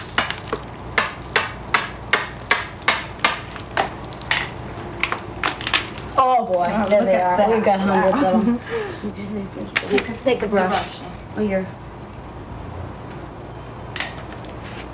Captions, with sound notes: [Hammering] [Wood Cracking] >>Oh boy! >>There they are. >>Yea, we've got hundreds of 'em. >>We just need.. >>To take a brush. >>Well here.